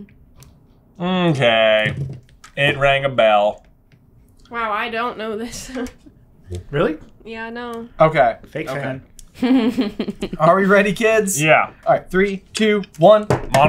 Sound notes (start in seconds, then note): 5.6 laughs; 9.3 laughs